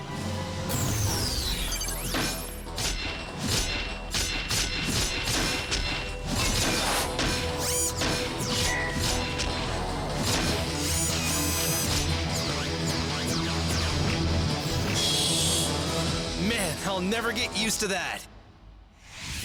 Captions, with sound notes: (ENERGY WHIRS) (PIECES OF SUIT CLANK AS THEY LOCK INTO PLACE) (MECHANICAL WHIR) MAN, I'LL NEVER GET USED TO THAT!